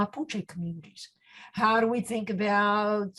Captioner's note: speaks in foreign language